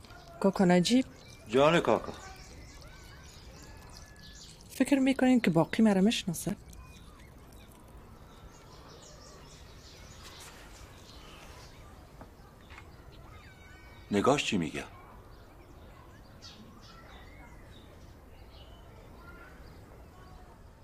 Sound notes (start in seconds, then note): 8.4 birds chirping